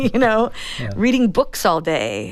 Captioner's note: laughter